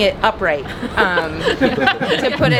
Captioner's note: laughing